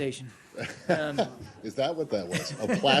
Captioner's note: laughter